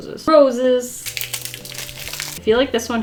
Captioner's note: packaging crinkling